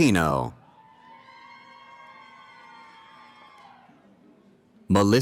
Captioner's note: cheering